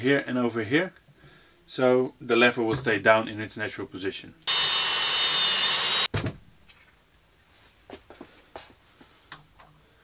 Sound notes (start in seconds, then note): 4.4 drill whirring